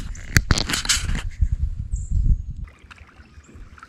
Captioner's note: camera clicking